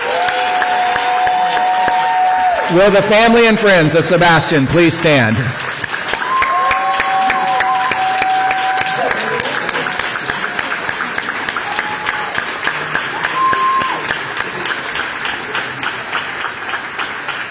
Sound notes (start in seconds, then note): 6.1 applause